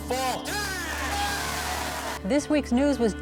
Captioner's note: crowd cheering and clapping